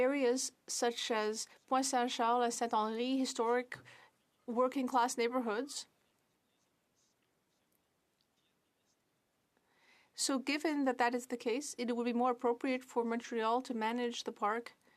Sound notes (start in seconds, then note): 5.9 speaking French